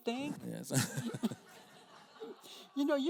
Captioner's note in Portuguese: risos da plateia